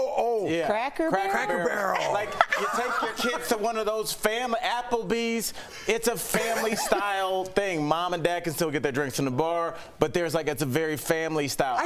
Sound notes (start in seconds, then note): 6.3 laughter